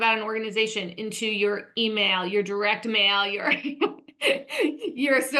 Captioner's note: laughs